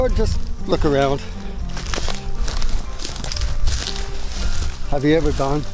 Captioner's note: footsteps